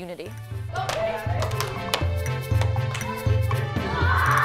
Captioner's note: children chattering, clapping